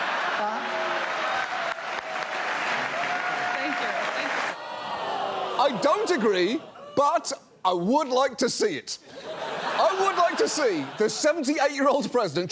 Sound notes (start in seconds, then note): 0.0 crowd laughs, cheers; 4.7 audience exclaims; 9.1 audience laughs